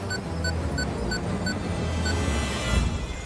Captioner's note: beeping